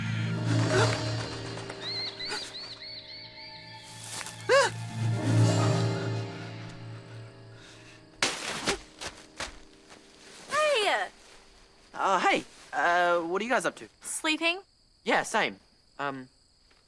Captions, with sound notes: -[birds fluttering] -[gasps] -[animal squealing] -[gasps] [gasps] Hey! Uh, hey! Uh... what are you guys up to? -Sleeping. -Yeah, same.